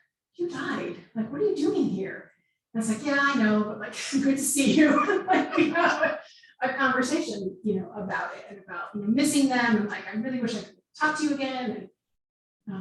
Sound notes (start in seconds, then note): 4.6 laughing